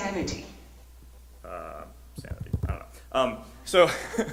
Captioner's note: rapid typing